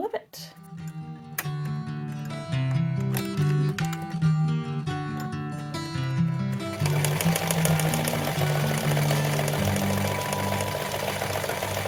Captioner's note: sewing machine noises